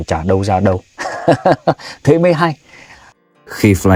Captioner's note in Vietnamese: tiếng cười